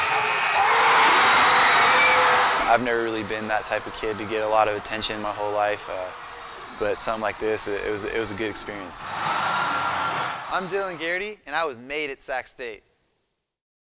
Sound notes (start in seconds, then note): 0.3 crowd cheering; 9.1 crowd